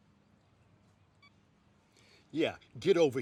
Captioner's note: phone beep